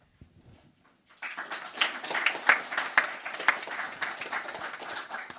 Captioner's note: crowd applauding